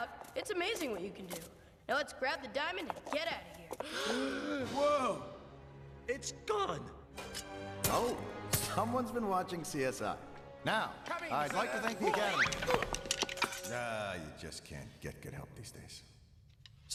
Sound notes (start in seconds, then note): 3.8 all gasp